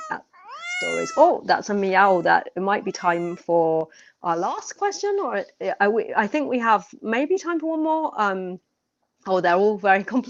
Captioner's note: miaowing